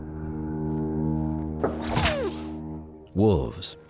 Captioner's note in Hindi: भेड़िए के रोने की आवाज़; बंदूक़ की आवाज़